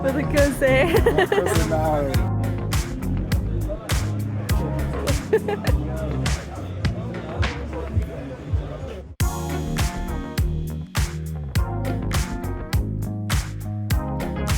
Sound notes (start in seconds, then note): 3.3 upbeat music; 4.8 laughing